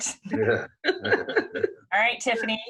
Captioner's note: both laughing